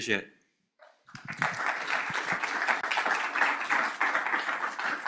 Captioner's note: applause